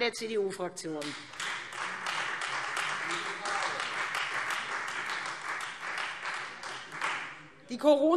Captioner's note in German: Beifall : Gute Frage!